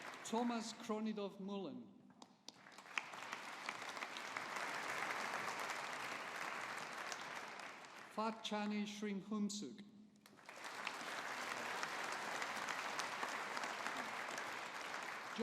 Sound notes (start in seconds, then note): 2.4 audience applauding; 10.3 audience applauding